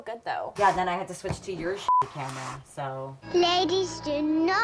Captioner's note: beep